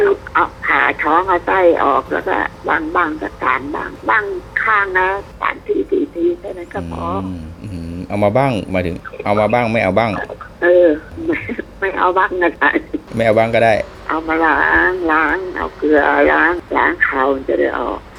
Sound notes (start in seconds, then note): 12.3 laughing